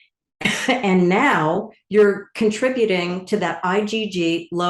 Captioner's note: coughs